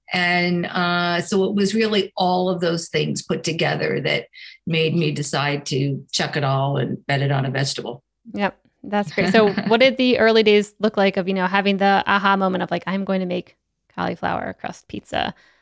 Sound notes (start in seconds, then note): 9.0 laughs